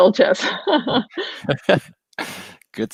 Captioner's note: laughs